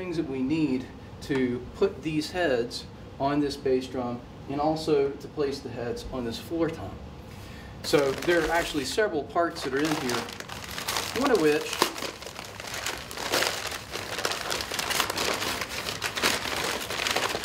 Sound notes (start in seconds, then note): 12.4 paper rustling